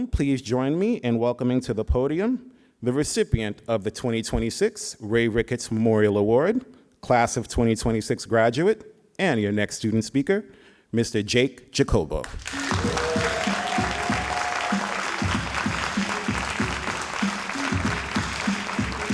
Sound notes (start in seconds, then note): 12.3 all applauding and cheering